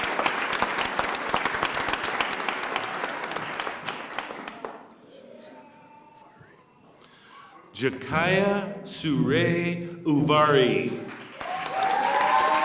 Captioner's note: applause